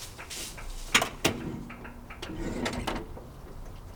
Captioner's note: door opens